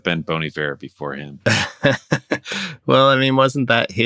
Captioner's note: laughter